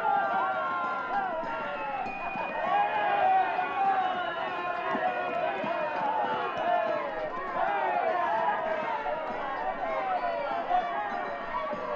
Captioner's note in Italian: Applauso